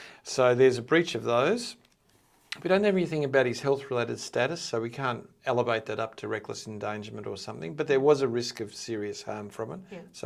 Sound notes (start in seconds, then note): none